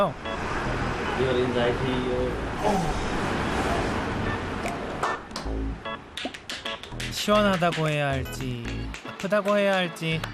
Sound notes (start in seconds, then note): 2.5 automatic moaning sound